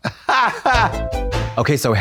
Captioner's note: Trixie laughs